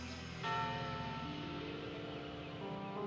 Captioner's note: bell tolls